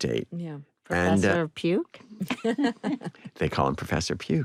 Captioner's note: laughter